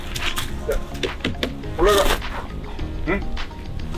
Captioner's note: tap tap